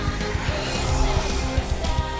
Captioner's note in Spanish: gruñidos